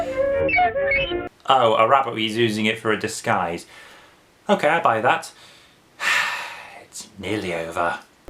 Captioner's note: sighs